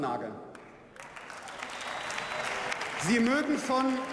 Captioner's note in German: Beifall